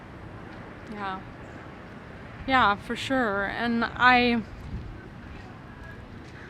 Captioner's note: sighing